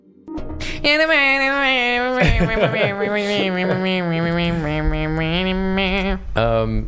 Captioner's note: humming